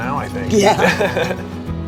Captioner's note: calm music; laughs